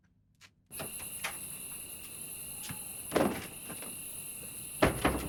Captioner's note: crickets chirping